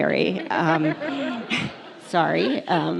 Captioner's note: audience laughs